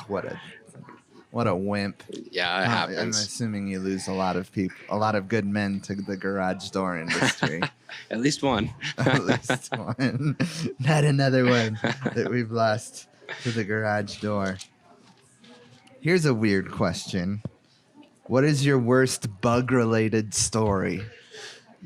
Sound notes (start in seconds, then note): 8.5 laughing; 8.5 laughs